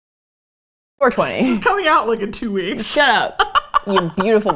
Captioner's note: laughs